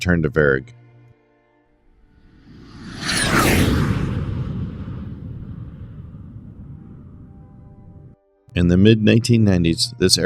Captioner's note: jet Whoosh